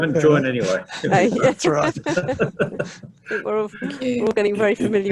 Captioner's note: laughter